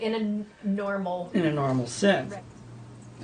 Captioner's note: voiceover